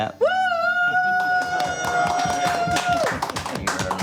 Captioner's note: cheering and applause